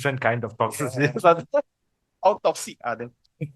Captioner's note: laughters